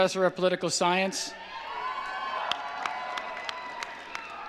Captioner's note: cheering